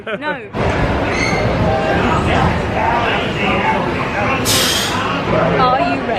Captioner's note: ride rumbling